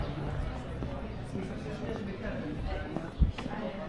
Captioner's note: people chattering